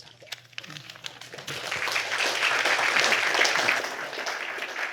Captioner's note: applause